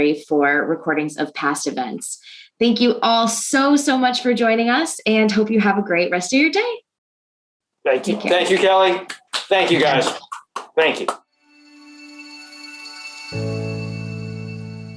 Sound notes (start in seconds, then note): 8.3 claps; 11.5 gentle music